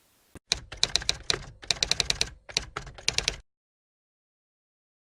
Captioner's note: typewriter Typing